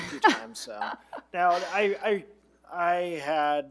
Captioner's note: laughing